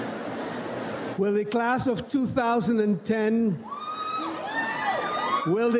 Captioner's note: audience cheers